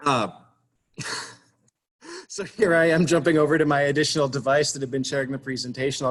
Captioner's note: chuckles